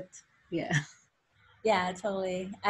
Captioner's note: laughs